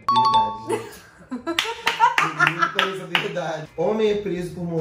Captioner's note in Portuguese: Risos